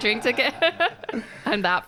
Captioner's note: both laughing